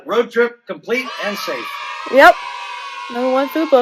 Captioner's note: cheering